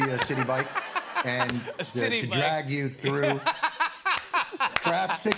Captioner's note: laughs